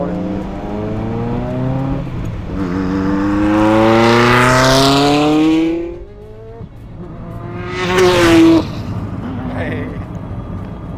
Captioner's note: The sound of the Ferrari F40